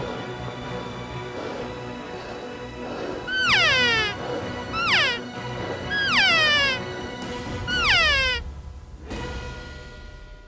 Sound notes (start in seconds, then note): 0.0 heavy Breathing; 3.3 cow Call; 5.9 cow Call